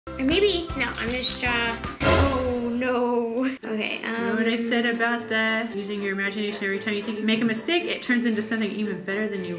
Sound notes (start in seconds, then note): 1.9 sharp sound